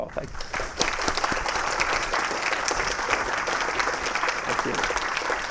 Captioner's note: applause